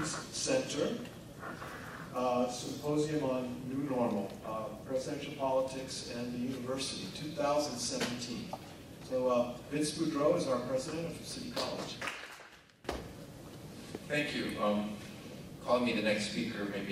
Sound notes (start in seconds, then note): 11.9 audience clapping